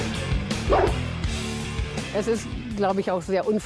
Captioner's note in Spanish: Ladridos